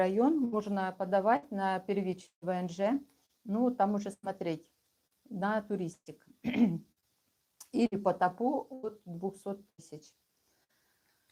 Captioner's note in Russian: откашливается